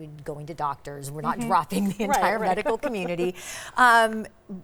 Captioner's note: laughing